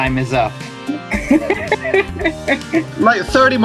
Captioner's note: amused failure noises